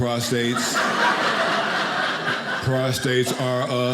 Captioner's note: audience laughing